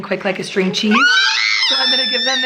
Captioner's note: screaming